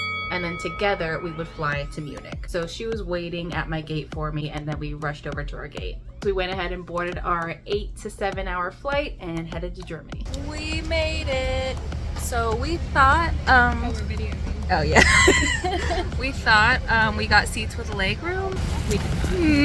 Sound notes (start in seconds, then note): 14.6 laughs